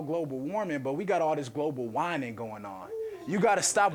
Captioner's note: audience laughing